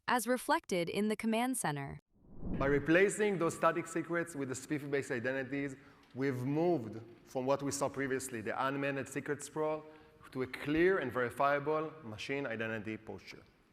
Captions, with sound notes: as reflected in the command center. (graphic whooshing) - By replacing those static secrets with the SPIFFE-based identities, we've moved from what we saw previously, the unmanaged secret sprawl, to a clear and verifiable machine identity posture.